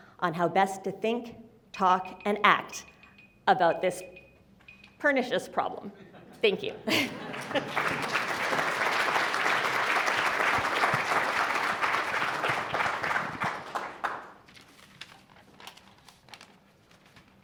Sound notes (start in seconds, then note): 6.9 applause; 14.4 paper ruffles